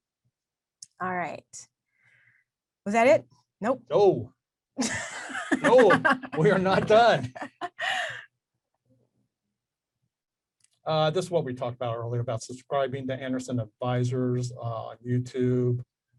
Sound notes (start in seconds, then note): 5.2 laughs